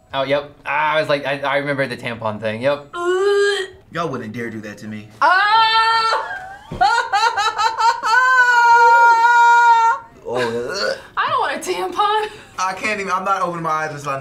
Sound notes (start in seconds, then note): 6.1 laughs; 10.7 wretches